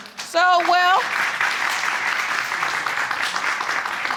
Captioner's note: audience applauding